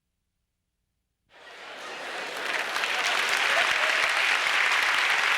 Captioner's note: applause